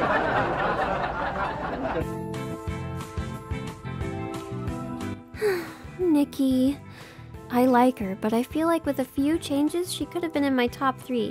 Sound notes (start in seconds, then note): 0.0 canned laughter; 5.3 sighs